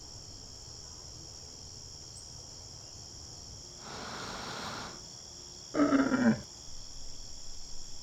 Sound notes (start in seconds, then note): 5.7 animal grunt